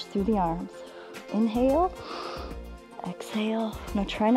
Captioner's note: inhales